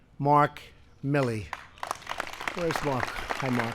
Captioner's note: applause